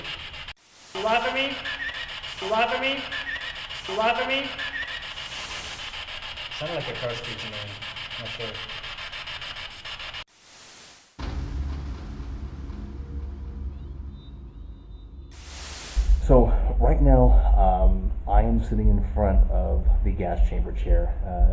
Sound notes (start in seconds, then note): 0.2 static buzzing; 3.0 static buzzing; 7.7 static buzzing; 11.2 ominous music